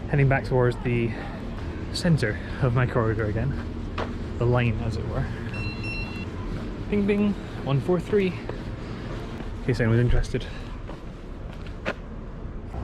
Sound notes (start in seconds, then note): 5.5 GARMIN chimes